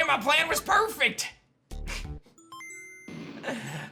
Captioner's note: giggles